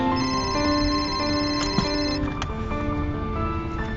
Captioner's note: phone ringing